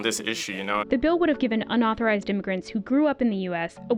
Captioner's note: voice-over